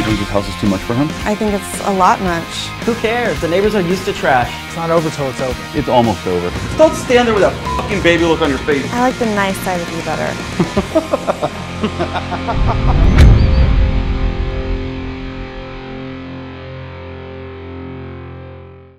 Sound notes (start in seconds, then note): 16.3 laughing